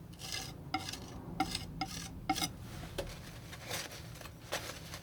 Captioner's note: scratching